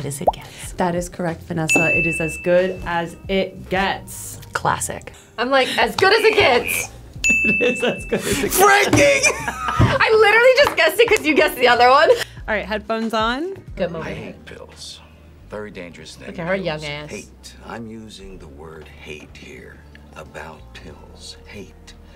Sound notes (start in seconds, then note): 0.7 graphic popping; 1.7 bell dinging; 7.2 bell dinging; 9.1 laughing